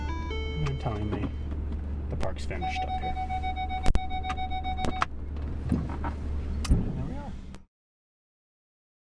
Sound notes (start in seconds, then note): 4.0 beeping